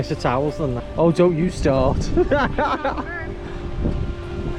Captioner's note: laughs